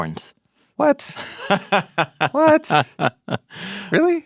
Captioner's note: person laughing